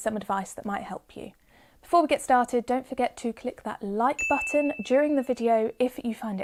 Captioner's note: 'ding' sound effect